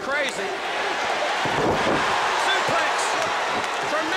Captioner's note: crowd cheering